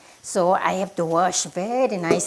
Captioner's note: none